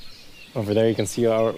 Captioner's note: ‘Akepa song